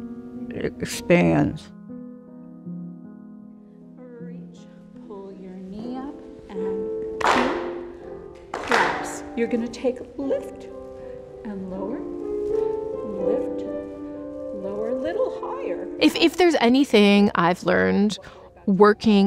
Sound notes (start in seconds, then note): 1.6 gentle music continues; 7.2 hands clapping